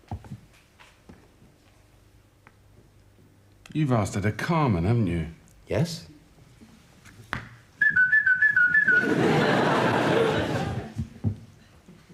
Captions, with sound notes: You've asked her to "Carmen", haven't you? - Yes. (whistling) (audience laughs)